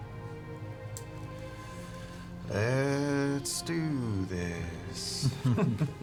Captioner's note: hesitantly; chuckles